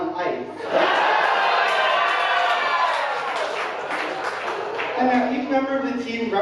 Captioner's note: audience laughing and cheering